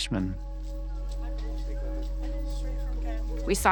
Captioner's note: suspenseful music; teenagers chattering